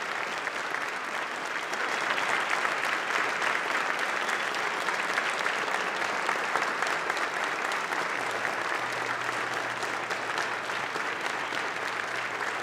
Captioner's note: applause